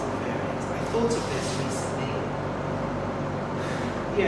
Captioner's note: sighs